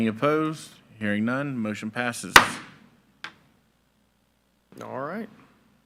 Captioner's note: gavel thudding